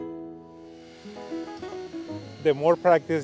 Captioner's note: joyful guitar music; chainsaw whirring